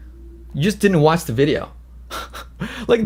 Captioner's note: laughs